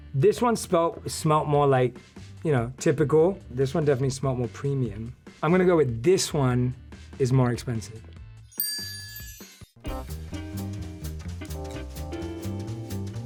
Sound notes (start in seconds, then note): 8.5 chime dings; 9.8 upbeat jazzy music